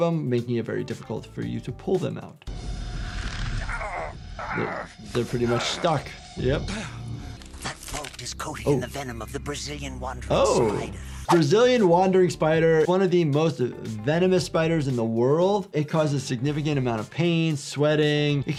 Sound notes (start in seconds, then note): 3.0 snake groans